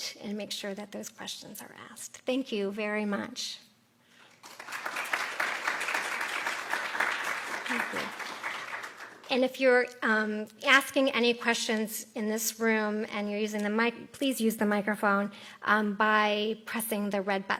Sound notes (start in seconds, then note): 4.2 applause